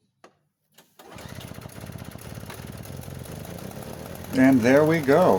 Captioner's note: engine running sounds